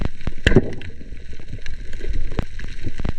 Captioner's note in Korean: none